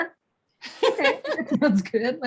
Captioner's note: both laughing